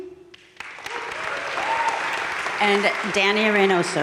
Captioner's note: crowd cheering and applauding